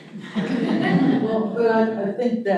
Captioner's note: audience chuckling